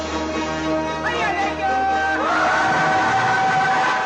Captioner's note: people shouting